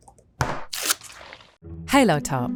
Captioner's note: tub thudding